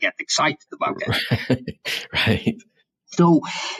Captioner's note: laughs